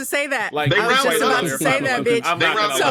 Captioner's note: laughing